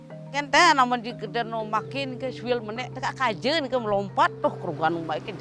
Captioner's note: speaking foreign language